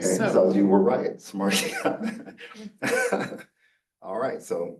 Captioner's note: professor laughing